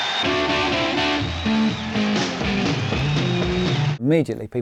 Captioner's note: crowd cheering; band playing